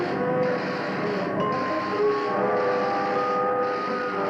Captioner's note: ding